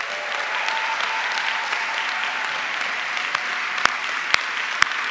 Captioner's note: audience cheering and clapping